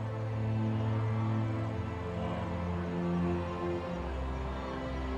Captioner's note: wildebeests grunting